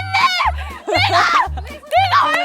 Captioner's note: Scratch